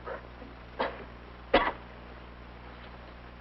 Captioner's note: coughing